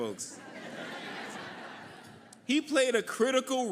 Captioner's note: audience laughing